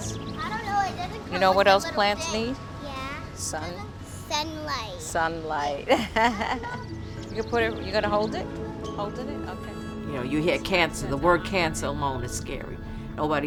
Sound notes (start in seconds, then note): 5.8 chuckles